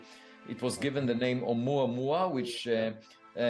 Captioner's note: speaking foreign language